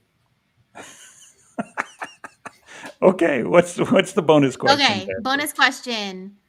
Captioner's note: laughs